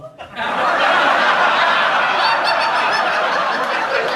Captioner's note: audience laughs